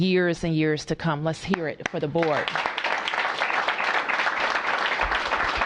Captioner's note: applause